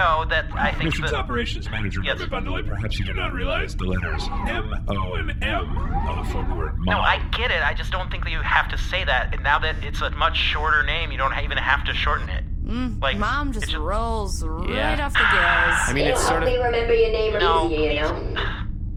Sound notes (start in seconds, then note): 15.6 sighs